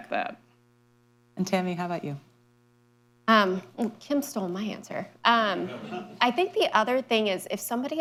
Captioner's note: laughter